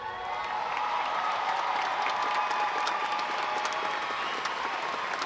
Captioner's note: audience applauding